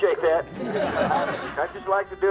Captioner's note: crowd laughs